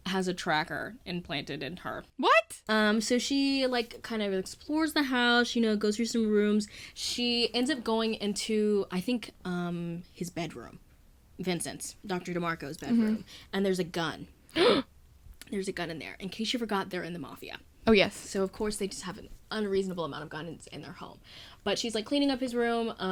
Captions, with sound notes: has a tracker implanted into her. so she like kinda explores the house you know. goes through some rooms. She ends up going into I think his bedroom. Vincent's. Dr. DeMarco's bedroom. and there's a gun. *gasp* in there. In cause you forgot, they're in the Mafia so of course they just have an unreasonable amount of guns in their home. but she's like cleaning up his room.